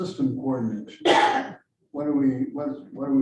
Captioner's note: coughs